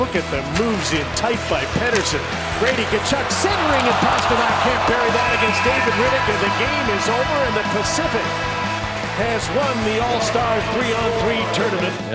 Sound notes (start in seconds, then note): 6.0 horn blows